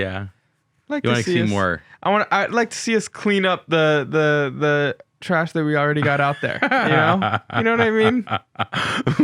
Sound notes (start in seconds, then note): 6.1 laughing